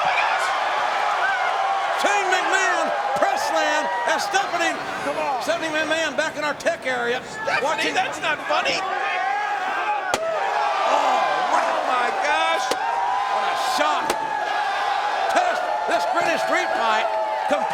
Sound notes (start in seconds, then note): 10.3 metal thuds